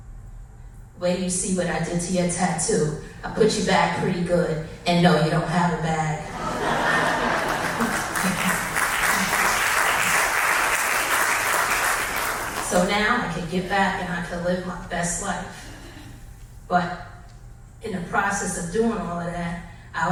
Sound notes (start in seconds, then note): 7.9 audience applause